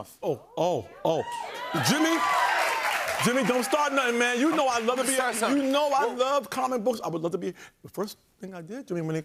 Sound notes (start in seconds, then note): 1.1 cheering and applause